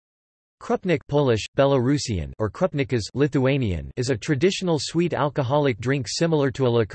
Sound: Lithuanian

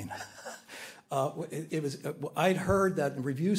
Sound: chuckles lightly

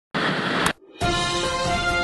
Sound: tv static

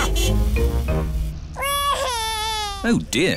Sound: crying

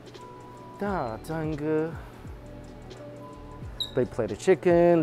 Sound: speaking in Chinese

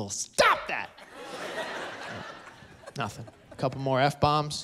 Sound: laughter

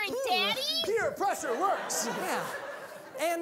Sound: audience laughing

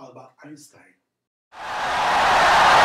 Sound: wild applause and cheering for 17 seconds

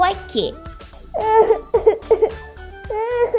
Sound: sob...sob!

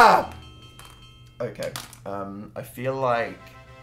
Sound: quietly

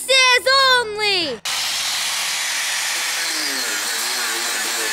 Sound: sawing noise

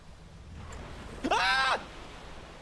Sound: screams

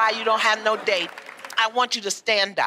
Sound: applause

